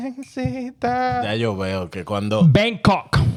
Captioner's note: speaking In Foreign Language